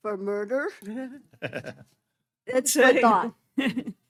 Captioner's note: chuckling